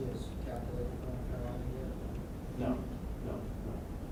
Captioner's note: voiceover; talking in background